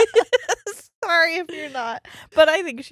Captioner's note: laughing